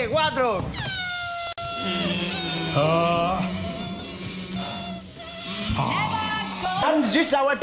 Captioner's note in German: Luftballonquitschen und Stöhnen der Anderen